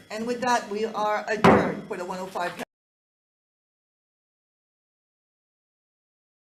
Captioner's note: gavel thudding